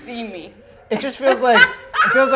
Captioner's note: laughs